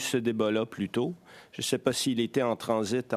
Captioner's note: speaking French